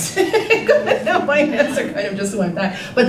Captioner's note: laughing